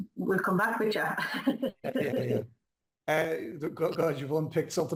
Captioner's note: laughs